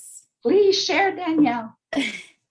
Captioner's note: laughing